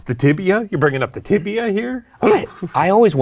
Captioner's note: shudders